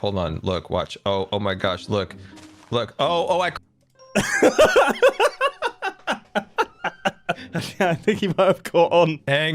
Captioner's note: nervous laughter